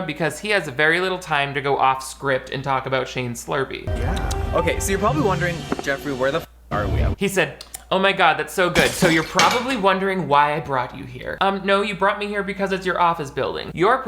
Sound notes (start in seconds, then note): 7.6 smacking lips